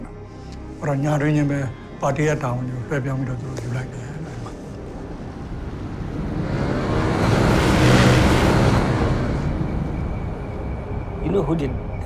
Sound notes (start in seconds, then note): 6.5 sound of a motorbike